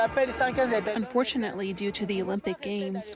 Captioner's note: through translator